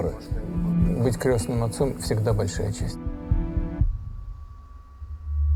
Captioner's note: speaking foreign language